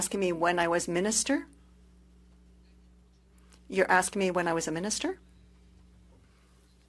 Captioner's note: speaking French